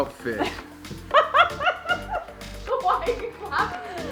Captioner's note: laughing